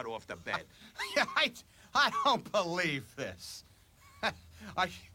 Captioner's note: LAUGHlNG